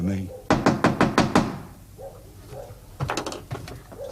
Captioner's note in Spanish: Llamán a la puerta con urgencia